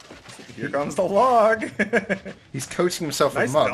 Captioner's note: laughs